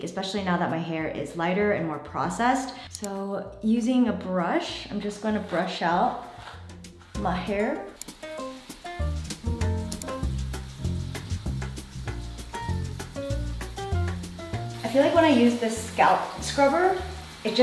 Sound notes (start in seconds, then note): 8.1 bright music; 11.2 water splattering